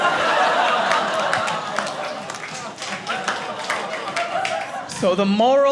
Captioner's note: audience laughing